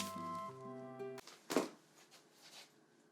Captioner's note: notes plopping to the floor